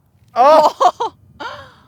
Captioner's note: laughs